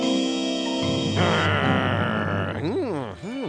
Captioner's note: growls